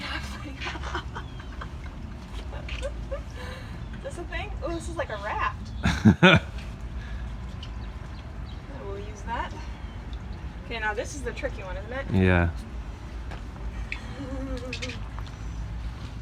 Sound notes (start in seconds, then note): 0.1 laughing; 5.8 laughing